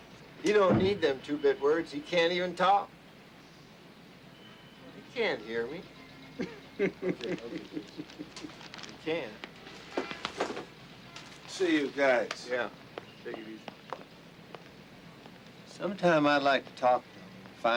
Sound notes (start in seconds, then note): 6.4 Artie chuckling; 9.6 horn honking